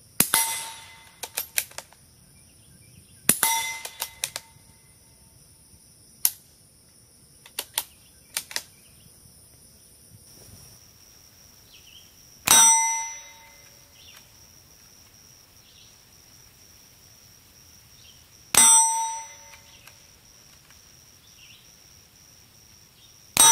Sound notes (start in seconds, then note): 0.0 metal ding and gun reloading; 6.2 gun shooting a blank; 12.5 metal ding and gun reloading in distance; 18.6 metal ding and gun reloading in distance